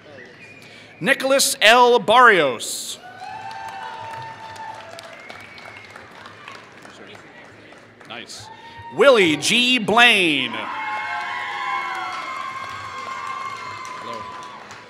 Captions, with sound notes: Nicholas L. Barrios [Applause] Willy G. Blaine [Applause]